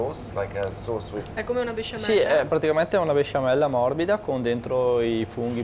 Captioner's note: speaks dialect